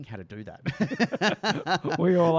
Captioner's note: laughs